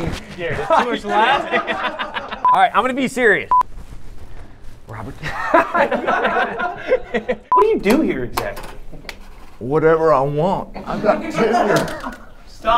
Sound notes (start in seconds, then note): 0.4 laughter; 5.2 laughter; 10.8 laughter